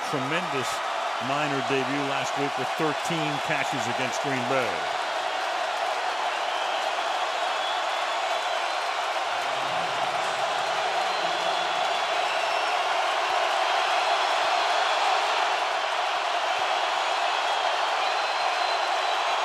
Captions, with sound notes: who had a tremendous minor debut last week with 13 catches against Green Bay. [crowd roaring]